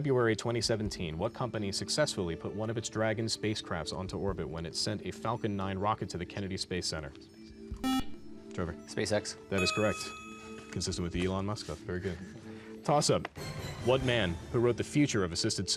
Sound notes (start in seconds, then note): 7.8 beep